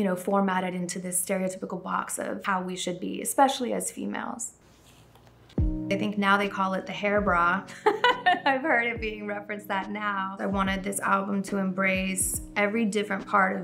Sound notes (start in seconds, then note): 7.6 woman laughing